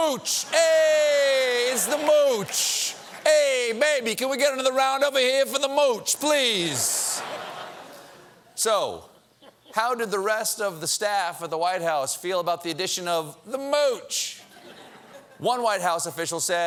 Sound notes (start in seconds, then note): 3.7 laughter; 7.0 laughter